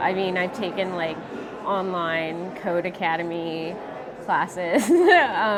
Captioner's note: laughing